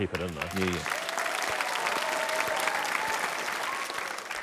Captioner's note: applause